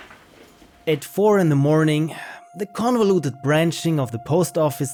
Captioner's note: narrating